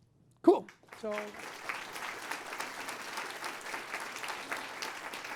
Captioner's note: applause